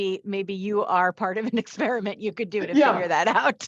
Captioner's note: chuckles